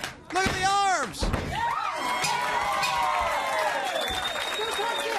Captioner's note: crowd chatter